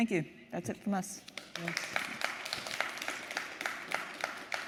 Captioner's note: audience applauding